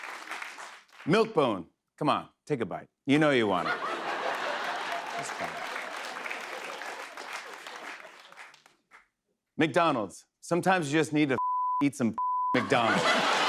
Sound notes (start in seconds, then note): 3.6 laughter; 6.4 applause